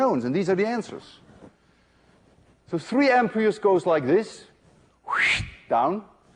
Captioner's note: wssshhht